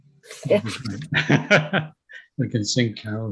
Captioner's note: laughs